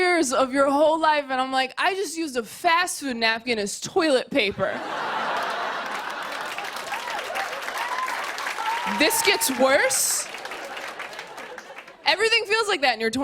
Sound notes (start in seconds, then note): 4.7 laughter; 5.0 cheers and applause